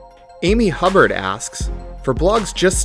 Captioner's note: voiceover